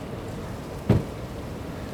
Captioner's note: door slam